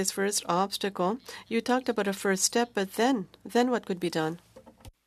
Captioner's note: speaking French